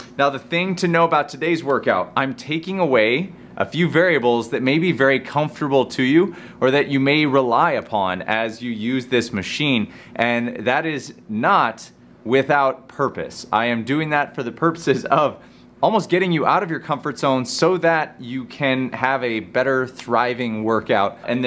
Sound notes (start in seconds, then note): 14.8 chuckles